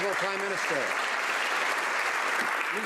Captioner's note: some Applause